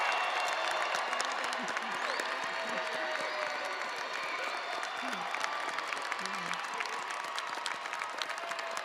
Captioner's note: audience cheering and applauding